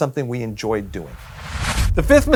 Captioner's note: whooshing sound